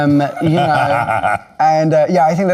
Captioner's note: laughing